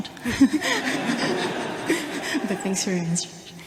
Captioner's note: audience laughter